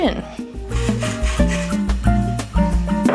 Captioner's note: rustling